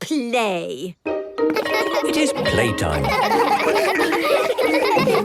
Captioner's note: laughter